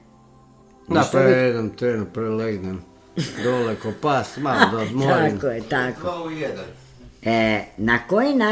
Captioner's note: laughter